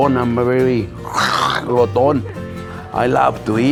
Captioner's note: growling sound